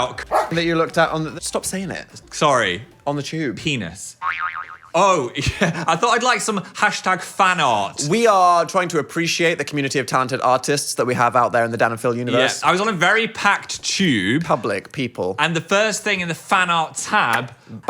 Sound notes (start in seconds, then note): 0.3 dog barks; 4.2 spring boings